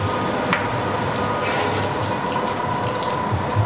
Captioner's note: whirring, splashing